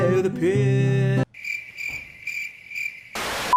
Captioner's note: awkward cricket sound